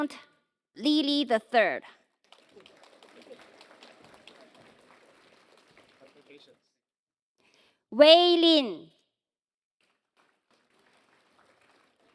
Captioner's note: applause